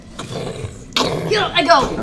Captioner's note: booming footsteps